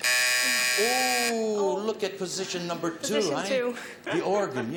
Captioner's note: timer buzzes